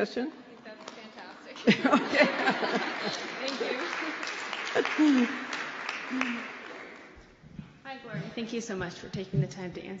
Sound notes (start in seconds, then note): 1.6 laughter; 3.7 applause